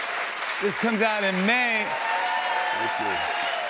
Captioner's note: cheers and applause